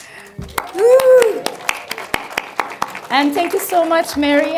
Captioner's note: crowd claps